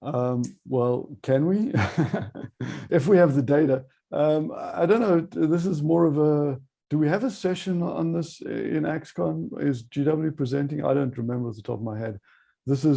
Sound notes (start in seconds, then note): 1.5 chuckles